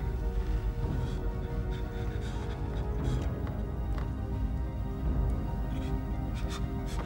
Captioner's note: soft tense orchestral music; Martin gasping softly